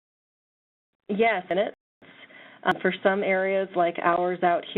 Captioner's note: voiceover